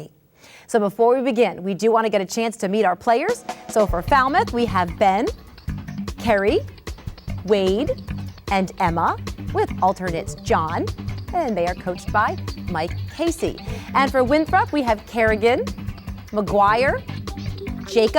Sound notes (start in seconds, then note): none